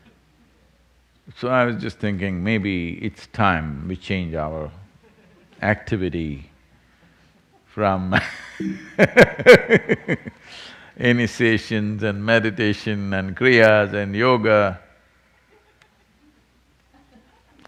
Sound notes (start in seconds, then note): 8.6 laughs